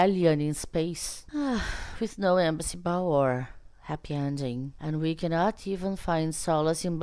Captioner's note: sighs